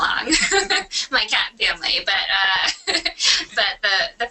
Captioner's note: laughs; laughs